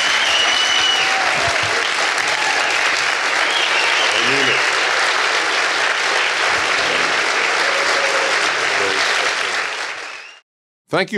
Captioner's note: cheers and applause